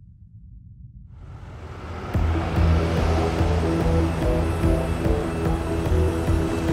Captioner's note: ominous music; suspenseful music; vehicles approaching